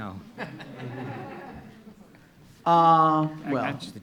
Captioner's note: laughing